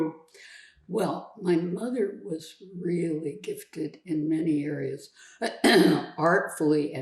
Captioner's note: clears throat